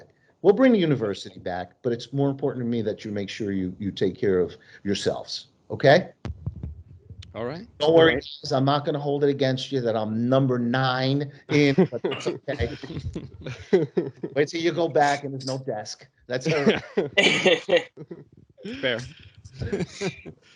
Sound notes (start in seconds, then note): 11.3 laughs